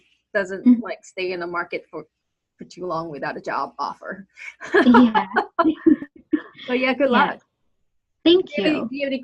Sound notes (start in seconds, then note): 4.6 laughs